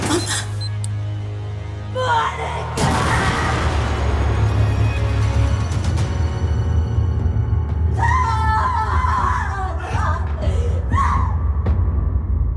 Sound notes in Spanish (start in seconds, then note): 2.8 Explosión; 7.9 Gritos